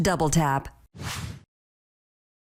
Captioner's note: air whooshing